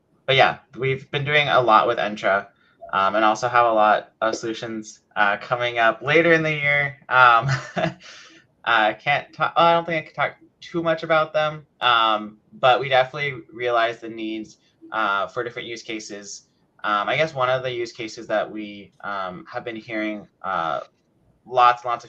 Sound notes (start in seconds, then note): 7.4 laughs